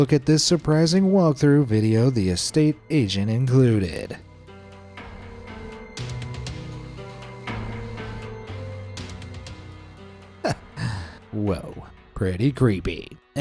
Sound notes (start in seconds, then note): 4.5 dramatic music; 10.4 chuckles